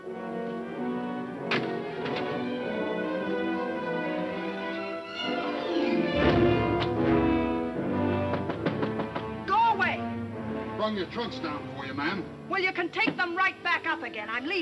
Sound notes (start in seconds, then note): 0.1 dramatic music; 8.4 loud knocking